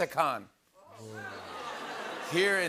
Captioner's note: audience laughs, groans